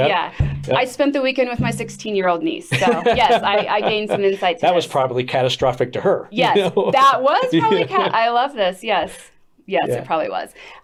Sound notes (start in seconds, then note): 2.7 laughs